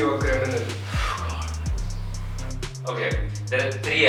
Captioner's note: whsipers angrily